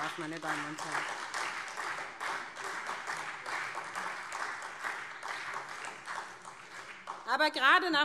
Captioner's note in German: Beifall SPD